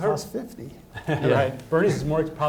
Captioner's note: participants laugh